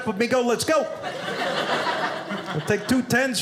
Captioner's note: audience laughing